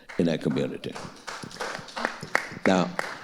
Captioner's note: audience applauding